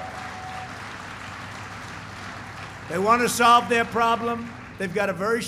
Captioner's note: applause